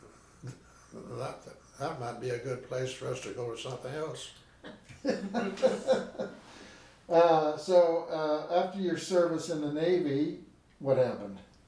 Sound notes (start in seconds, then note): 4.6 laughing